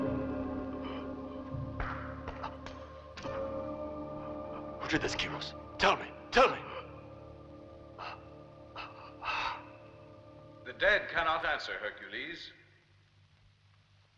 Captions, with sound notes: - Who did this, Keros? Tell me! Tell me! (gasping) - The dead cannot answer, Hercules.